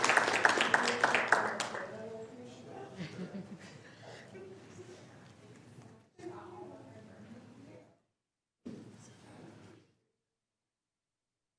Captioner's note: applause